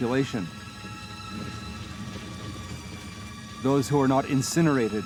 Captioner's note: foreboding music; fire crackling